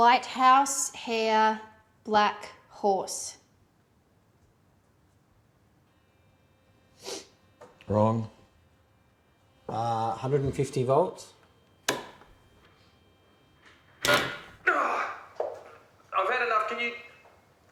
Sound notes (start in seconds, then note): 14.2 machine blaring; 14.6 grunting